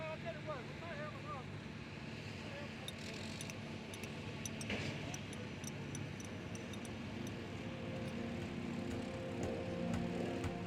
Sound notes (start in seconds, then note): 3.9 tools clanging; 7.9 gentle music